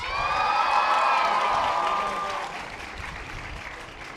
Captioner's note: audience applause